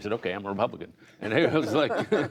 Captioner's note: laughter